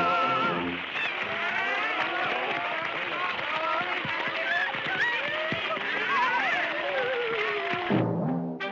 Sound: public cheers

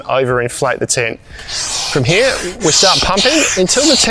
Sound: pump hissing

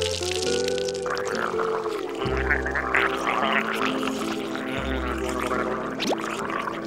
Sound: gurgling

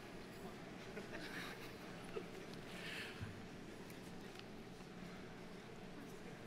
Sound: faculty member chuckle

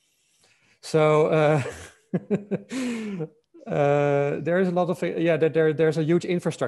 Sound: laughs

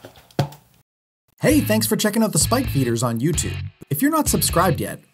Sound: voiceover

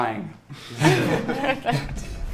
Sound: everyone laughs

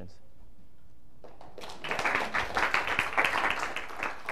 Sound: applause

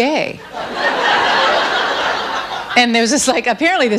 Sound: audience laughs

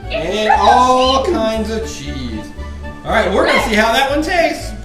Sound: voiceover

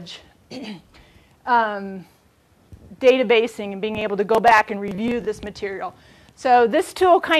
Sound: cough

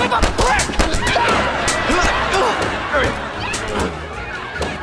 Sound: grunting; screaming

